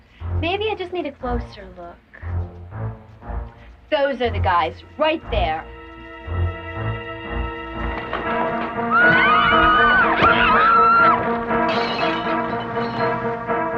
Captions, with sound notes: - Maybe I just need a closer look. Those are the guys, right there. (screaming)